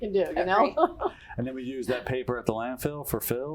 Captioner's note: laugh